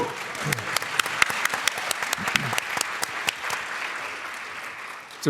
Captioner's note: applause